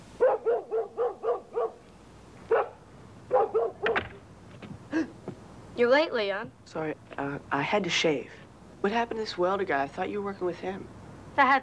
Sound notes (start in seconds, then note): 0.1 dog barking; 4.9 Leon gasps